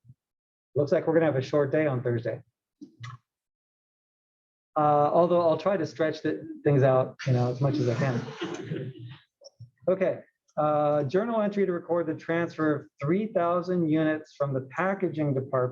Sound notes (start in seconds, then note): 7.6 laugh